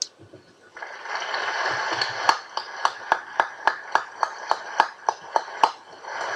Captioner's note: applause